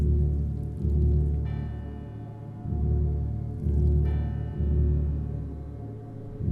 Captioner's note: church bell rings